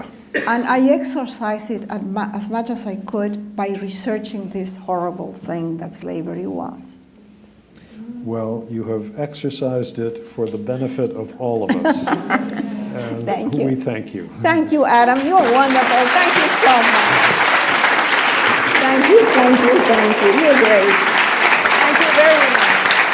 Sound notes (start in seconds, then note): 15.0 audience claps